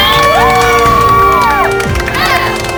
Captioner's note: cheering